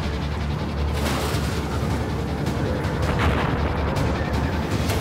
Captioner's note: wind whipping, explosion